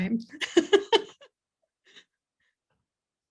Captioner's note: laughs